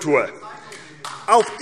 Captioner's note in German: Beifall AfD